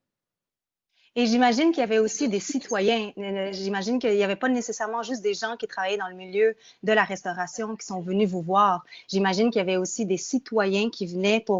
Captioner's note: speaking in French